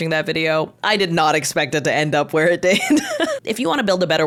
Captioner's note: laughs